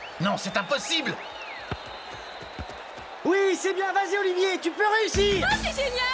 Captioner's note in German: beifall